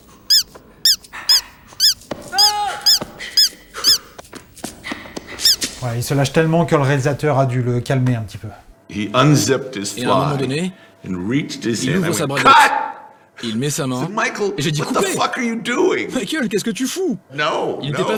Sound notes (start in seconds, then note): 0.3 toy sound; 5.4 toy sound